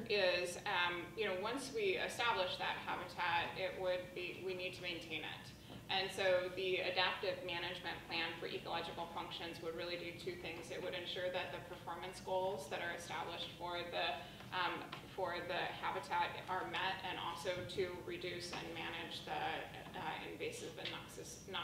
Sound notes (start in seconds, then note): none